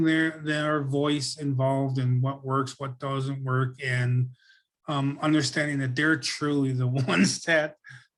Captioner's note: laughs